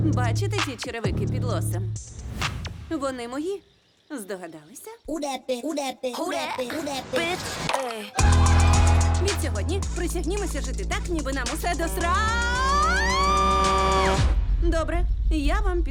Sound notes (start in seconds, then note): 8.1 all cheer; 11.8 horn blares; 12.4 screams